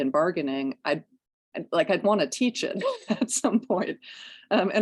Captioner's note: laughter